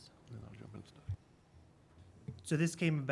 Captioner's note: speaking faintly